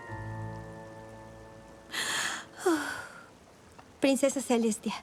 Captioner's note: whispers; big inhale and exhale